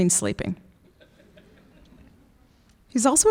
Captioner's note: laughing